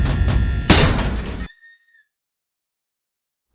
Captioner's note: panel squeaking